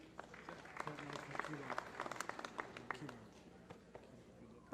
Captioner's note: applause